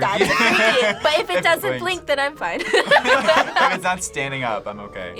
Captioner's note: laughs